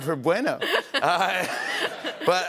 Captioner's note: laughter